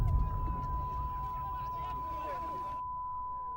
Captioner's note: dramatic booming; loud beeping